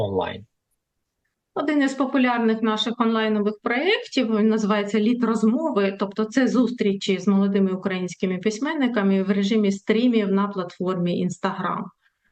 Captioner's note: foreign language